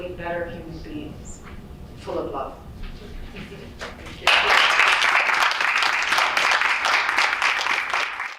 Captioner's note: applause